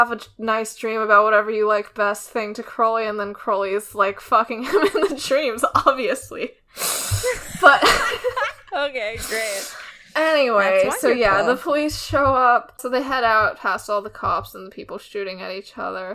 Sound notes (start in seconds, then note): 7.2 laughing; 7.2 laughs